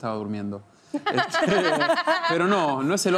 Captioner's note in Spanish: Ríe